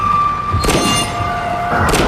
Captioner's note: gunshots